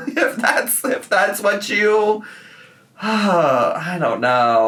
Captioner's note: sighs